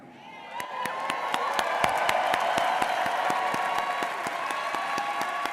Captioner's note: audience cheering and applauding